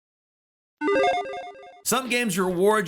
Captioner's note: logo beeping